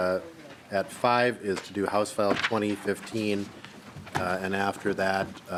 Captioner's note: gavel